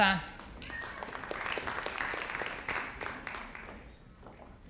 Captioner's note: audience applauding